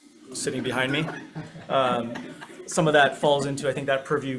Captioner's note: group laughs